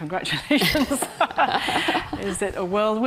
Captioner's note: Karin Smyth laughs